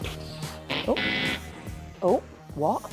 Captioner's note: wrong answer noise